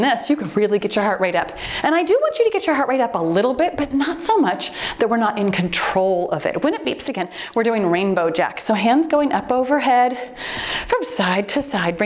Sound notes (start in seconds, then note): 7.0 timer beeps